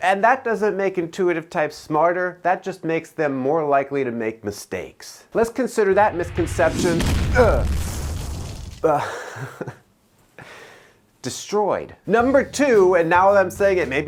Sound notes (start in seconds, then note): 5.9 fireball roars; 7.3 groans; 8.8 chuckling